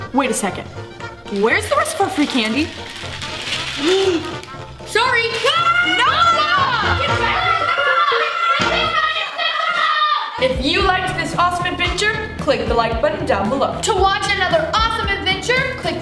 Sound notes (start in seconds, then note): 3.1 clattering; 7.5 screaming